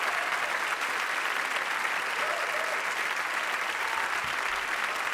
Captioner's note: audience applauding